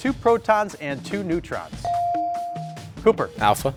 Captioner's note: buzzer dings